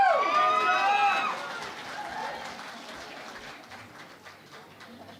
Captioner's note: cheering and Applause